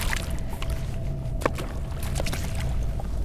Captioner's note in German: Wasserplätschern